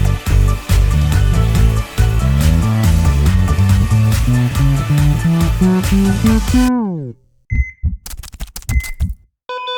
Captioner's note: upbeat music; keyboard keys clacking